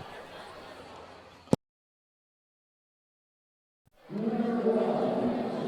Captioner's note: indistinct chatter